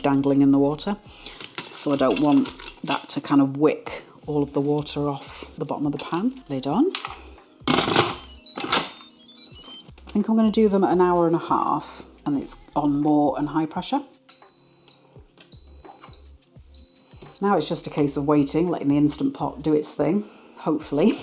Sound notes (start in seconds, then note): 7.6 mechanical thunking; 14.0 beep beep beep